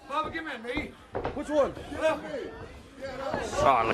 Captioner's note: crowd chatter